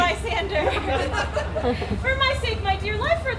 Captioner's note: audience laughs